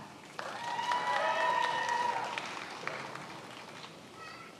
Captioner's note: many applauding